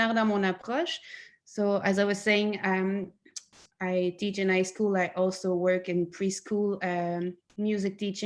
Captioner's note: in English